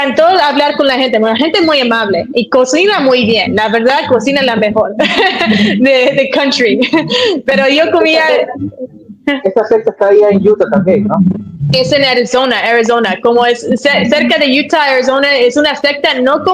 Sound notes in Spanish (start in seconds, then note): 4.9 risas